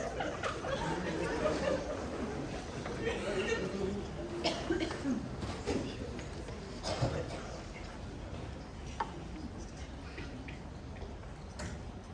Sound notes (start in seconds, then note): 0.0 laughter from Crowd; 4.4 someone coughs